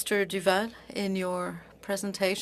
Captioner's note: speaking french